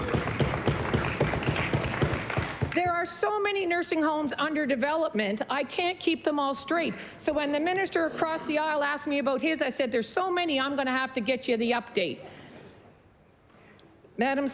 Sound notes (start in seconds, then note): 3.7 applause